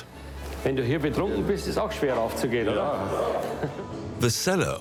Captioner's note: speaking foreign language